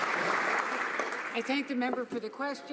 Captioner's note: some Applause